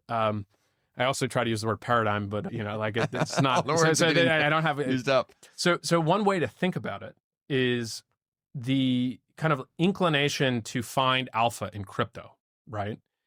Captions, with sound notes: Um, I also try to use the word paradigm, but you know, like it's not, I don't have— [Laughs] The words are used up.. So, so one way to think about it. is the kind of inclination to find alpha in crypto, right?